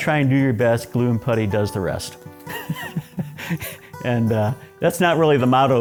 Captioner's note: laughs